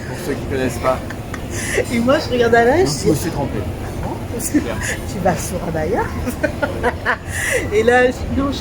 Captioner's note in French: rires; rires